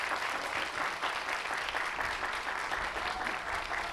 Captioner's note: cheers and applause